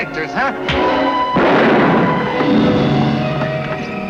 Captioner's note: gunshot